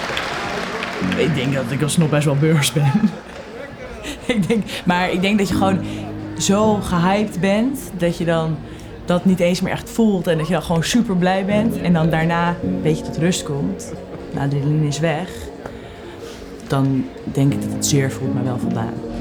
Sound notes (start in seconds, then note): 3.1 laughs